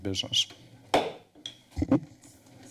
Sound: gavel tap

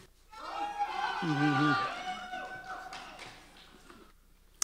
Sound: cheering

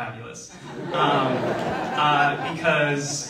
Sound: audience laughing

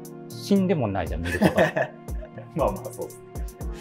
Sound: laughing

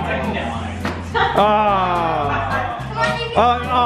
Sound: group yells

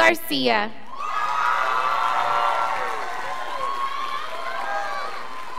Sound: scholars applauding

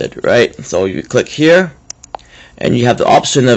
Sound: click

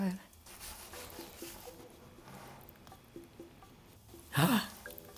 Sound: whish shooshes quickly in bowl

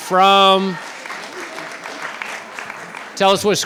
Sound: cheering

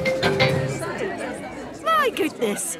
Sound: all murmuring

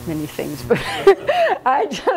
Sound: laughs

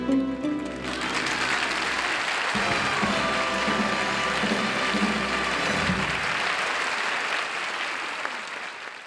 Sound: audience applauding

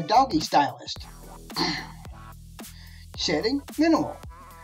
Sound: clears throat

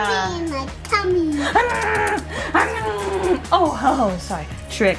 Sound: lips smacking

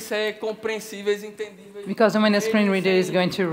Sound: speaking Portuguese

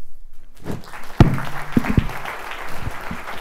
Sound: applause

